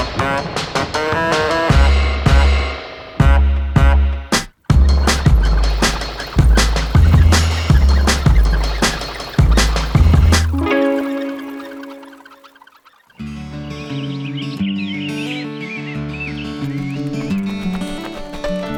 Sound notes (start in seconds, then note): 0.1 playful music continues; 4.6 wheels squeaking; 13.5 birds tweeting; 13.5 tranquil music